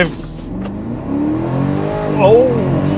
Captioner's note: car engine revving